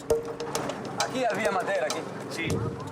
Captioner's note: Portuguese spoken audio